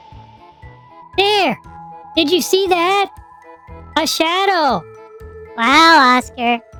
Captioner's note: gasping